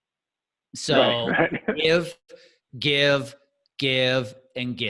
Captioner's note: laughing